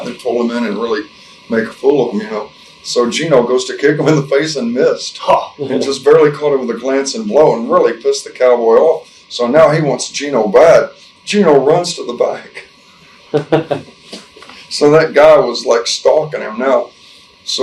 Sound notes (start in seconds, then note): 13.2 interviewer 2 chuckles